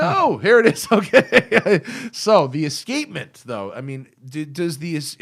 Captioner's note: laughter